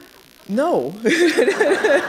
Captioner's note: laughter